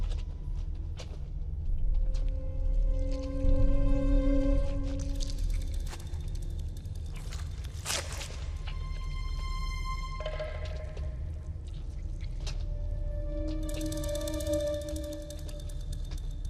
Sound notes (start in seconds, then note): 3.4 filth squelching; 3.4 suspenseful music